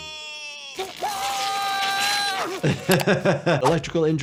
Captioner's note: Kenny shrieking; laughs